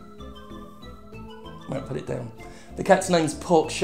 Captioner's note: muttered